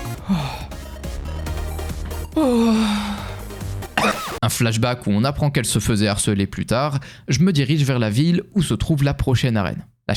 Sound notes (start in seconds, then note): 3.8 coughs saturated